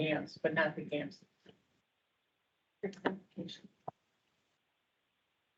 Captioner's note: indistinct chatter